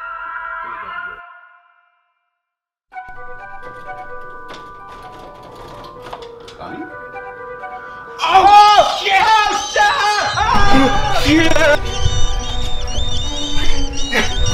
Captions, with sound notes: (Doorhandle jiggles) Bunny? OH SHIT!! (Screaming) (Bat sounds)